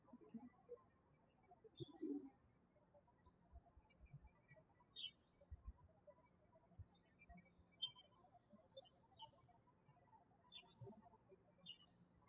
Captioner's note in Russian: птички щебечут